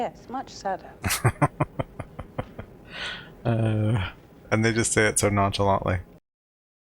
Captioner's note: laughing